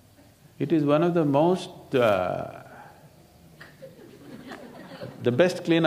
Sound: laughter

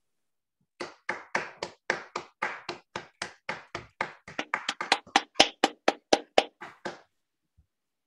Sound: applause

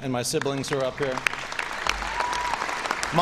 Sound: cheering and applause

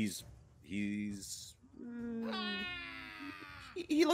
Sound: goblin wails

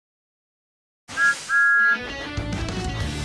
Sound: thomas whistles

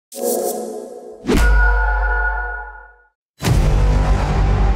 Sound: whooshing; intense music

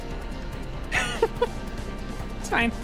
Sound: quiet Laugh

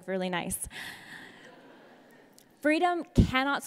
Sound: audience laughs

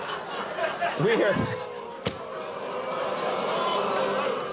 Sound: crowd boos

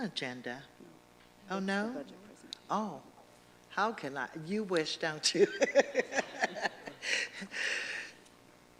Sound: laughter

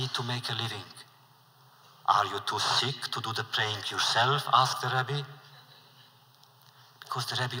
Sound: laughter

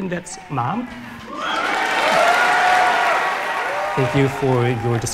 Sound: audience cheers

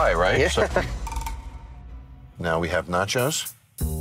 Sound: laughing

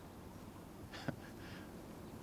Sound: chuckles

